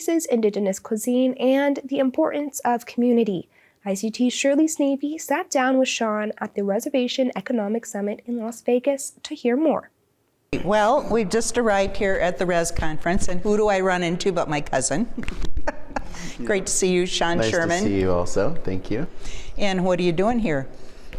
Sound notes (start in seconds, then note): 15.1 chuckling